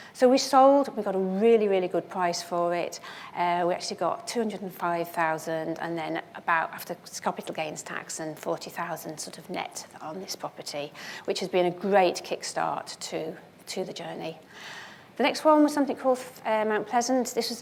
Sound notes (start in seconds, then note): none